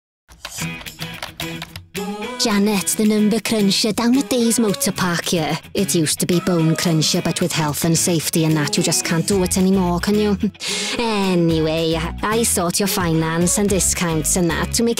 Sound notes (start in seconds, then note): 0.0 upbeat music; 0.3 keyboard clicking